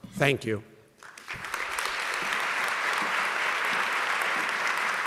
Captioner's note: audience clapping